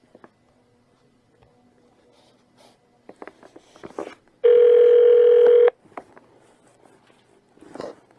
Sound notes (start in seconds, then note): 4.4 phone rings